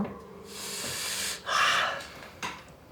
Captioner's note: Riz'shar exhales heavily